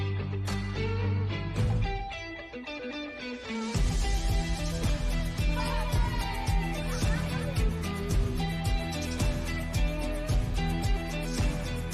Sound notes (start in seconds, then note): 5.2 all laughing; 8.3 upbeat music continues